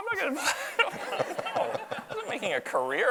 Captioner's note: audience laughs